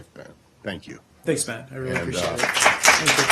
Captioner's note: applause